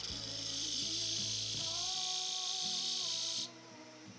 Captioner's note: machine whirring